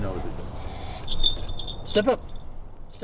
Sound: bell rings

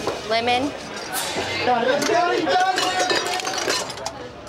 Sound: ice machine clinks

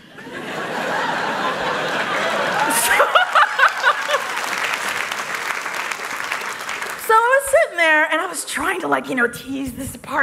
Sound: laughter

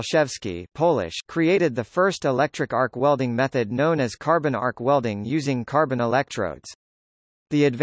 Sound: Polish

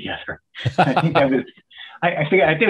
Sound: chuckles

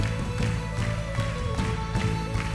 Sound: clapping

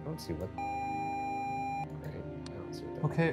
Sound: video game screen beeping

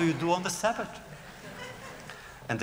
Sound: laughter

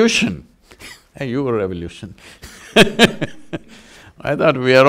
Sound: laughs

